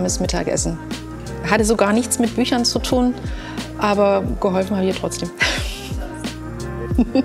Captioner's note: laughs